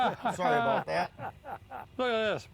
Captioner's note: laughing